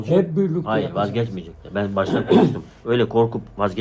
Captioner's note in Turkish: boğazını temizler